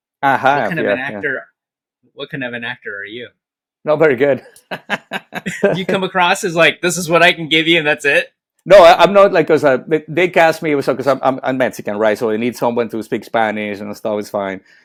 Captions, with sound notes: Aha, yeah. What kind of an actor, what kind of an actor are you? Not very good. (laughing) You come across as like, this is what I can give you and that's it? No, I'm not like, because they cast me, because I'm Mexican, right? So they need someone to speak Spanish and stuff is fine.